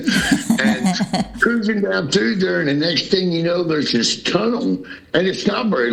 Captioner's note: laughter